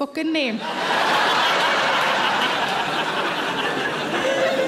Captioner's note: audience laughs